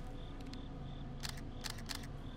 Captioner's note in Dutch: camera sluiter klikken